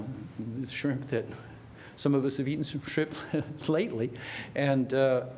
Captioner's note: laughter